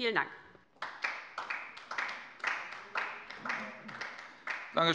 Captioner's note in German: Beifall bei der LINKEN